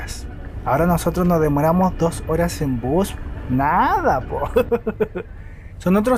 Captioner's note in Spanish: risas